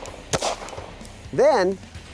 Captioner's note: gun fires